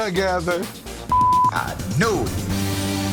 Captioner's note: beep